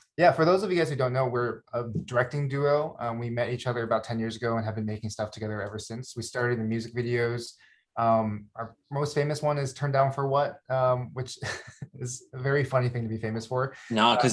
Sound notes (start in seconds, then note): 11.4 chuckles